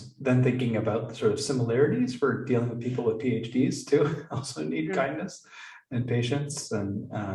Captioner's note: chuckle